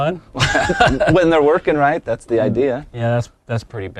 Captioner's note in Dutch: lacht